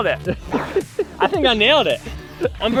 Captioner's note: laughs